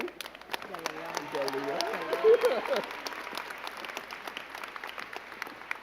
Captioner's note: crowd cheering and clapping